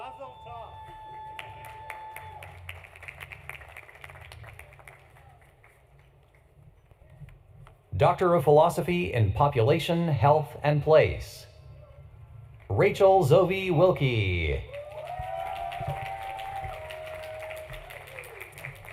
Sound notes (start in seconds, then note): 5.8 applause; 5.8 cheering